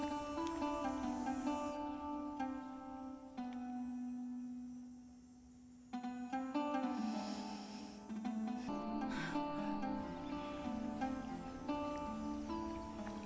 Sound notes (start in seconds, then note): 6.9 breathes deeply